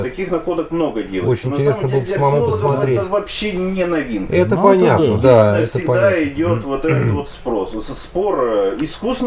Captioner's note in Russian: откашливается